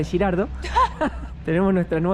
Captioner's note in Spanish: Risas